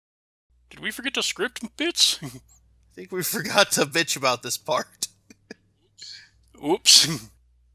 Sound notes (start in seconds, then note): 4.9 chuckles